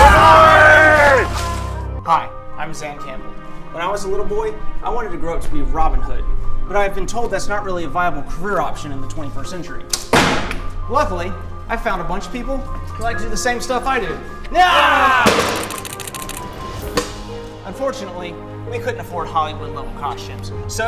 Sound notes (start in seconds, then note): 0.0 shouts; 10.0 bangs; 14.5 yells